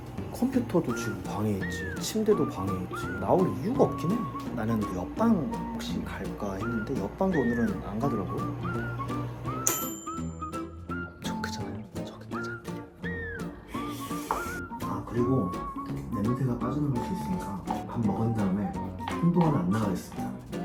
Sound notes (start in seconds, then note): 9.6 ding